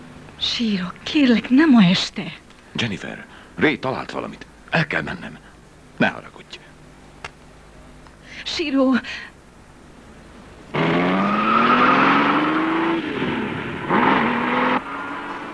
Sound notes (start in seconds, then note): 10.7 tires squeal